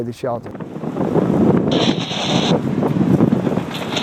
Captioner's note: wind blowing